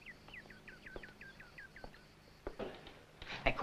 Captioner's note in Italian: sottovoce